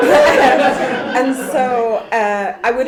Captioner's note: laughter